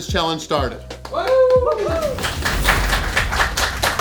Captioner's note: crowd clapping and cheering